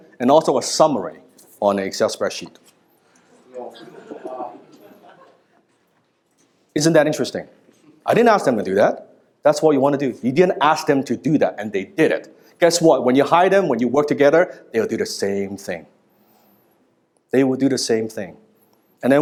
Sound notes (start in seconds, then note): 3.2 chatting